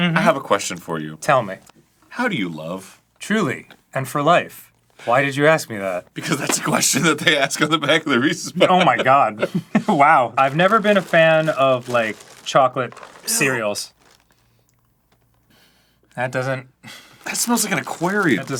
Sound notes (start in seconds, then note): 15.5 audacious sniffy